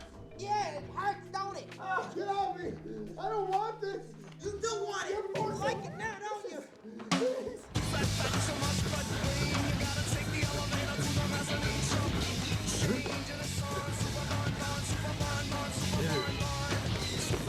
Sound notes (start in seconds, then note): 1.8 grunts; 7.9 whimpers